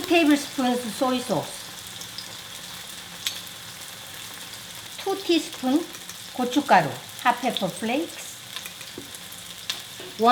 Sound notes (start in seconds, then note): 1.9 tofu sizzling